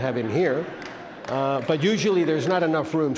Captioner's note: audience laughs and claps